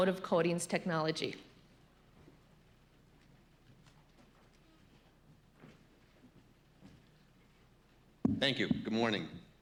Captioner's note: pause